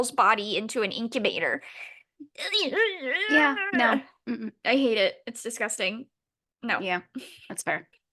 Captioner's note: distressed noises